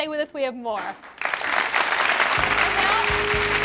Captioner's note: clapping